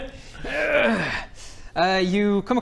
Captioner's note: hrrrgghh!